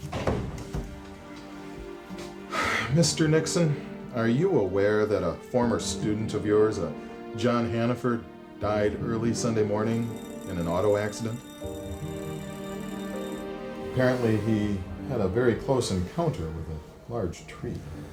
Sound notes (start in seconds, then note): 0.0 door thuds; 2.4 exhales; 12.2 bell ringing; 12.2 somber music continues